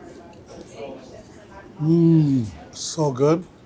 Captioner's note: muffled chatter